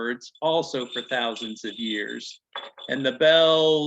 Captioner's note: bells jingling